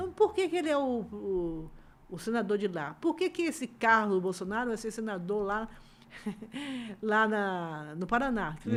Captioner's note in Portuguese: risadas